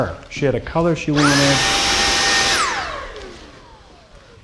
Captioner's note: vacuum whines